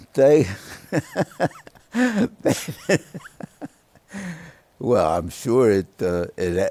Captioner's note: laughter